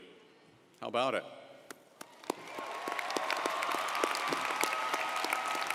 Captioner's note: audience applauding